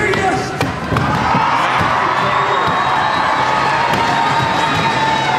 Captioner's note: crowd cheers